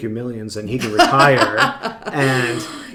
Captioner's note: laughing